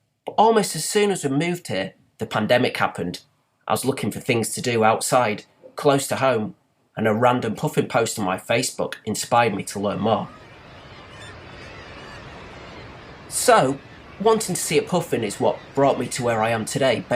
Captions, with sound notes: But almost as soon as we’d moved here, the pandemic happened. I was looking for things to do outside, close to home and a random puffin post on my Facebook inspired me to learn more. [bird calls, wind] So, wanting to see a puffin is what first brought me to where I am today